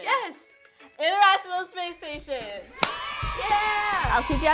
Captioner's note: crowd cheering